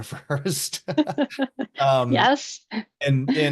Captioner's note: laughing